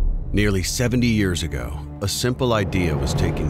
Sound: voiceover

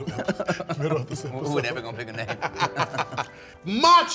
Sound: laughing

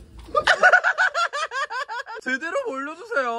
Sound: laughing

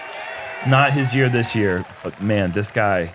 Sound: crowd cheering

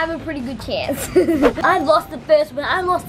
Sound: laughing

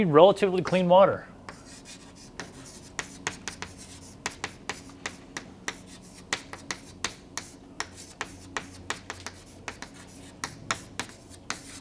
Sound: chalkboard writing

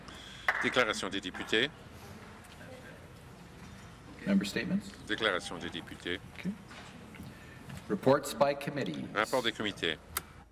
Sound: some Applause

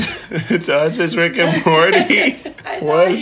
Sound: chuckles; giggles

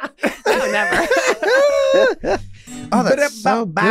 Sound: laughing

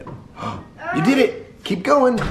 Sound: gasps

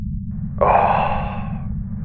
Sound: exasperated breath

